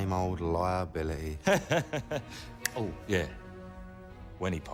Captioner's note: laughs